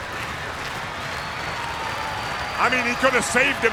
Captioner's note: crowd clapping and stomping